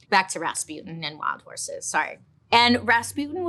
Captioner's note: none